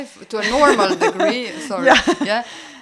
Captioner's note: laugh